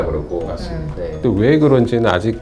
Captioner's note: voiceover